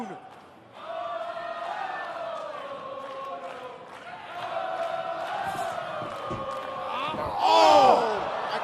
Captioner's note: crowd cheering